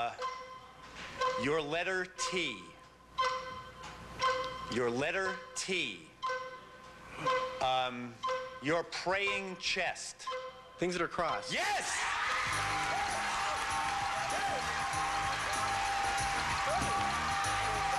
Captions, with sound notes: Uh, your letter T. Your letter T. Um, your praying chest. Things that are crossed. Yes! [audience cheering] Yes!